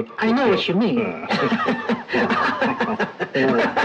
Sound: laughs

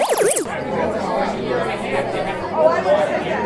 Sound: chatting

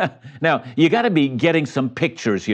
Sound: chuckles

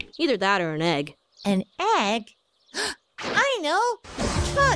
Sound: gasp

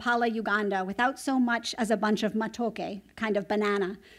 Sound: non-english

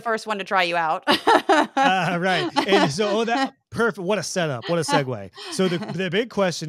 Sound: laugh

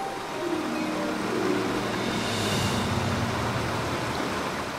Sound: cascading water

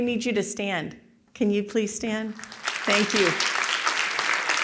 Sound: applause

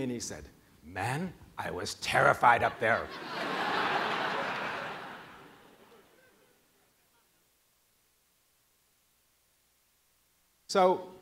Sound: laughing

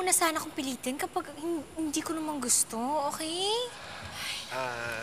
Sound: sighs

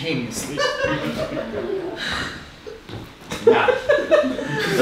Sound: audience laughing

